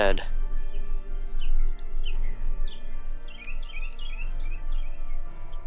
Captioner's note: birds chirping